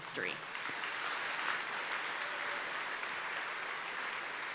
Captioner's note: audience applauding